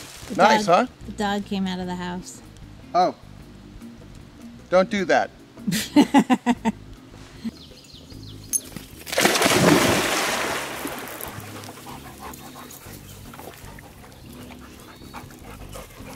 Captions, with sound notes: Nice huh? - Dog came out of the house. - Oh. Don't do that [Laughs] (splashing and panting)